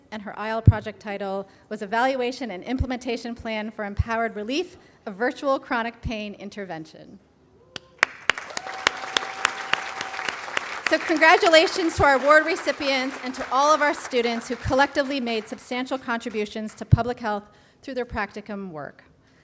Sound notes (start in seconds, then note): 8.0 audience applauding